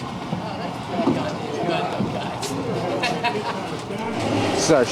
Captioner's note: laughs